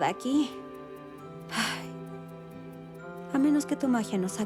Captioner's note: sigh